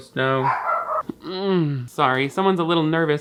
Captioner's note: Toast barks